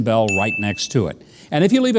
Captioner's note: bell ringing